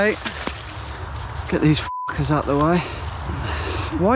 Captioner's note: beep